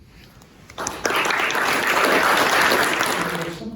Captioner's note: applause